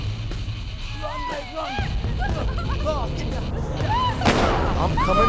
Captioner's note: whimpering